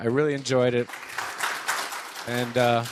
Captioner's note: audience applauding